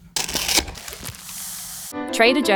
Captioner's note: paper crinkling; cardboard tearing